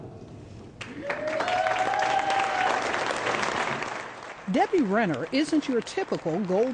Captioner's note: applause